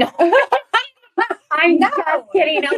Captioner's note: laugh